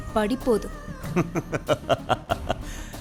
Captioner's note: laughing